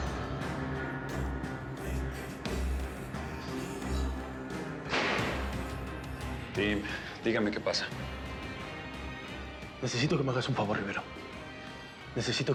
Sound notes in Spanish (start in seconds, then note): 4.9 sonido al cerrar la puerta